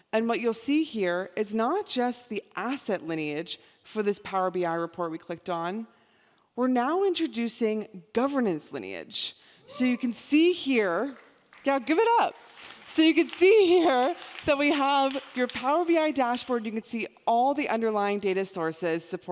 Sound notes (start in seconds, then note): 11.0 audience clapping; 12.3 audience applauding